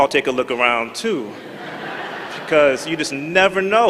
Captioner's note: laughter